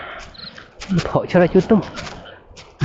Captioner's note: running sounds